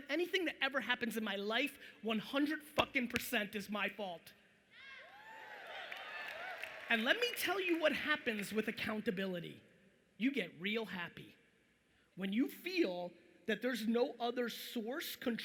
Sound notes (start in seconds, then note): 5.0 audience cheering